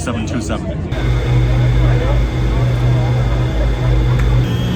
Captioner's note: engine whirring